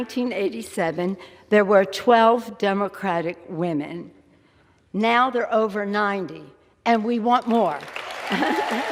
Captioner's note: applause